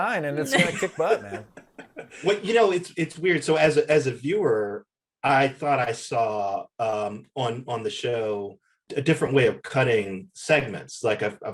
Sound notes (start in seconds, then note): 0.1 Eric laughs